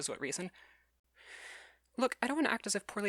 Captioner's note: inhales